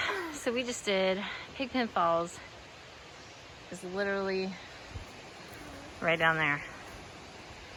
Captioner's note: huffs